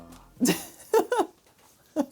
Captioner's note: laughing